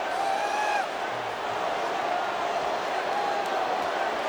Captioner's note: crowd clamoring